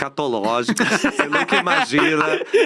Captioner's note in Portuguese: risos